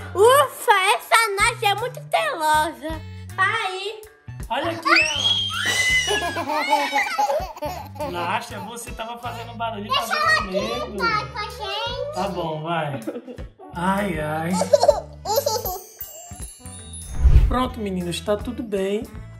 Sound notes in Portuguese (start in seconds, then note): 4.8 Gritos; 15.6 Som de brilho; 17.1 Efeito sonoro de transição